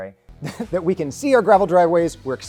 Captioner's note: laughs